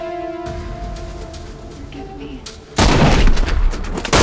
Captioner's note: guns firing